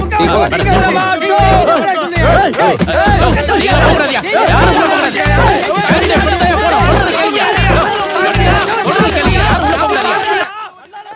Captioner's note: Babble of voices